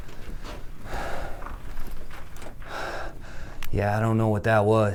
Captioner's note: Pete loudly breathing